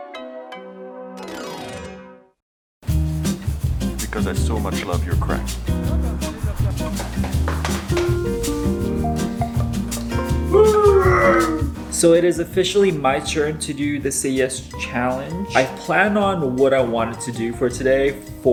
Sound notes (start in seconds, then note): 6.5 hands tapping; 8.1 upbeat music; 10.5 grunts; 10.6 cheers